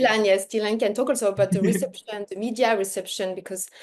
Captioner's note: laughs